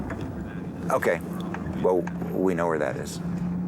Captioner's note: on phone